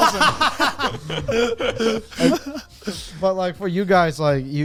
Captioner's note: men laughing